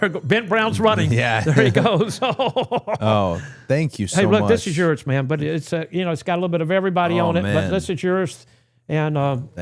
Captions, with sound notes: Ben Brown's running. There he goes. (laughing) Thank you so much. Hey, look, this is yours, man. But it is, you know, it's got a little bit of everybody on it. But this is yours and,